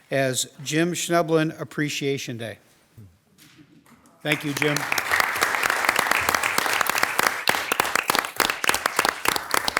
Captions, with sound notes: as Jim Schnoebelen Appreciation Day. Thank you, Jim. (all applauding)